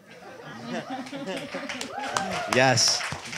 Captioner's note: audience laughter and applause